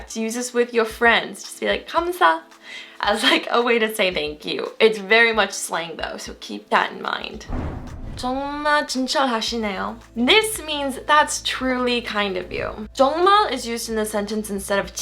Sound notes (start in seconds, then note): 2.2 foreign language; 7.4 whooshing; 8.4 foreign language; 13.0 foreign language